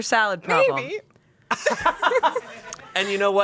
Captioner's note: everyone laughs